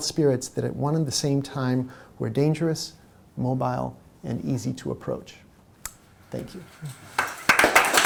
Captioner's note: audience clapping